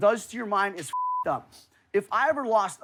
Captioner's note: beep